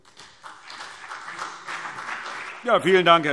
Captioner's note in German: Beifall BÜNDNIS 90/DIE GRÜNEN und vereinzelt CDU